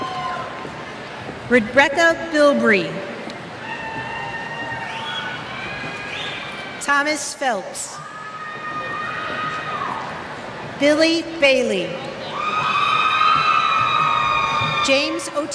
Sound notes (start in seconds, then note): 3.6 cheers